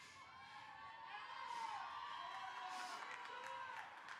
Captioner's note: crowd cheering